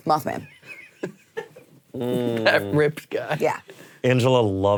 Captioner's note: laughs